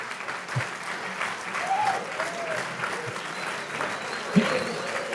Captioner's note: audience applause